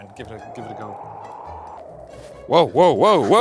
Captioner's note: wind whooshing